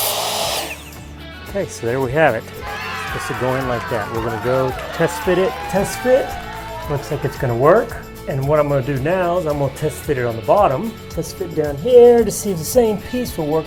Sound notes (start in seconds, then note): 2.6 cheering